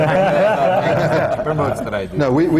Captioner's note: laughter